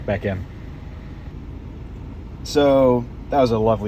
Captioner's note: air conditioning humming